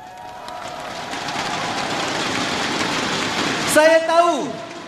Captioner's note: crowd cheering